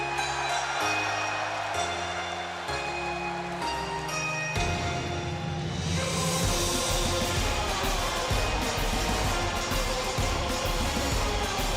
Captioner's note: crowd cheering